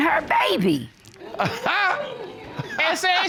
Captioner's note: chuckles